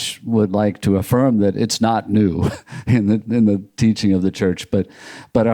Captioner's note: chuckles